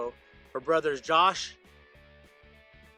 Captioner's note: none